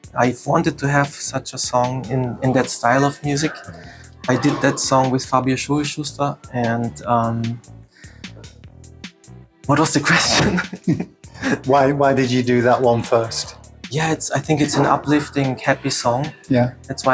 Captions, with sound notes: I’ve wanted to have such a song in that style of music. I did that song with Fabio Schurischuster what was the question? (laughs) Why did you do that one first? Yes I think its an uplifting happy song